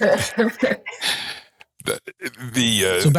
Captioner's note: people laughing